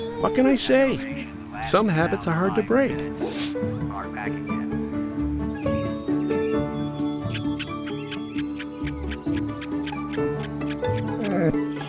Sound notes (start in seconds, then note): 4.1 birds chirping; 4.1 cheerful music; 11.0 snoring and grunting